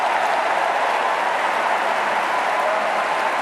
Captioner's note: cheers and Applause